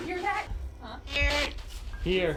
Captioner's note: spirit box voice